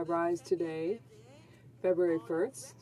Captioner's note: speaking French